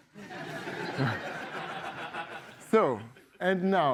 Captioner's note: laughter